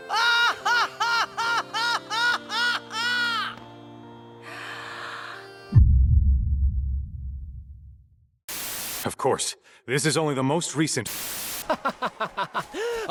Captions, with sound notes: [ a ha ha ha ha ha ha ] [ inhale ] "Of course, this is only the most recent..."